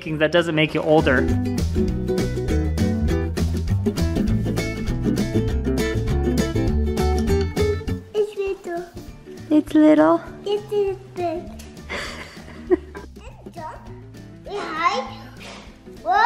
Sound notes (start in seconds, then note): 11.8 softly chuckles